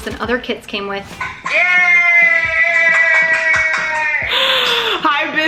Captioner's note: clapping